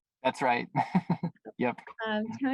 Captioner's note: chuckles